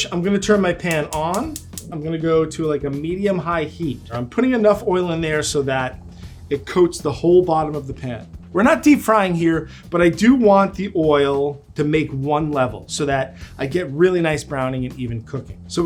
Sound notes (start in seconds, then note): 0.9 machine clicking